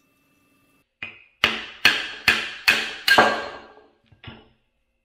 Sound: hammering

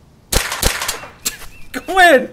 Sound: chuckle

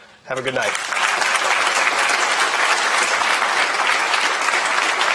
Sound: attendees applauding

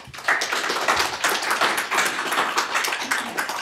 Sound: applause

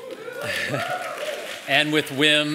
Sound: applause; laugh

